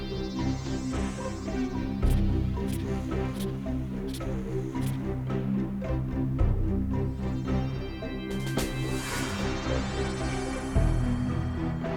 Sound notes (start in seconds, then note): 1.9 polygraph scratching; 6.1 suspenseful music